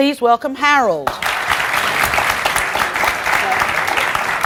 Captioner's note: audience applauds